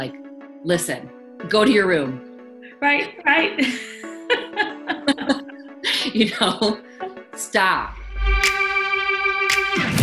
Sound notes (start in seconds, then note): 3.6 laughs; 8.3 upbeat music